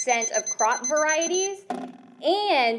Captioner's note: beeping sounds